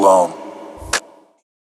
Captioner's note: click